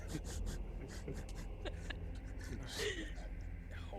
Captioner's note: laughs